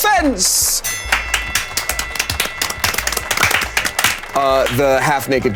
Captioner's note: audience clapping; fight ring bell chiming